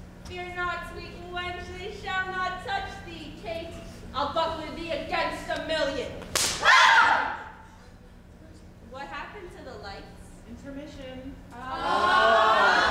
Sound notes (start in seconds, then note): 6.2 whip cracks; 6.6 group cries out